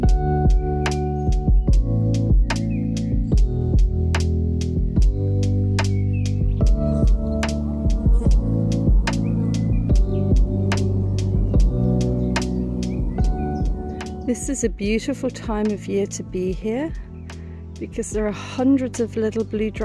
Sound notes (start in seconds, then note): 6.6 flies buzzing; 7.2 chill music